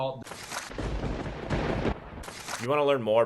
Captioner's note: lightning strikes